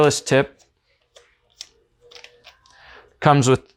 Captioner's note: cap twisting